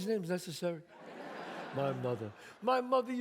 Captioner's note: audience laughs